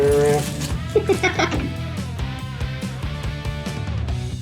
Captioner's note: laughter